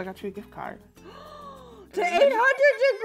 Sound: gasps

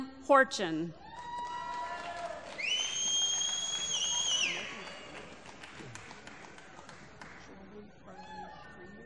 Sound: applause

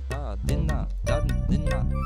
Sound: comical vocalisation

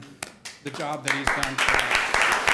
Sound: applause

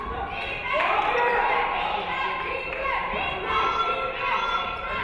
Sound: audience cheering

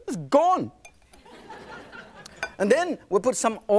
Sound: laughing

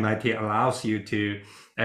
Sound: laughs

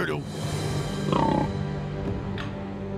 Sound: grunting

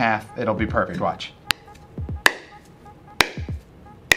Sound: tapping

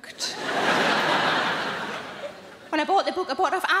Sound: audience laughing

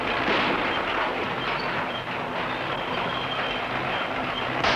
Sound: shots crack and whistle

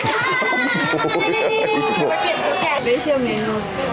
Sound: laughing

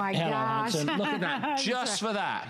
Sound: laughter

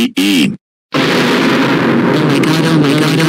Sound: goanimate scary sound

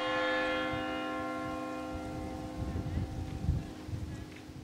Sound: church bells ringing

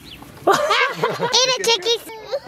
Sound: laughter

